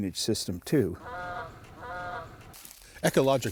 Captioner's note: birds calling